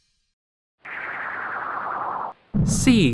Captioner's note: crashing sound